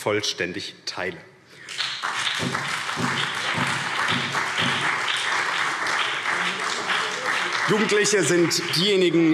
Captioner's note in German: Beifall BÜNDNIS 90/DIE GRÜNEN und SPD